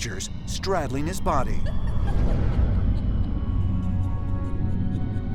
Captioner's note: sinister laughter